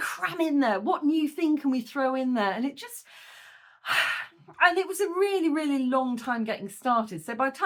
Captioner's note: sigh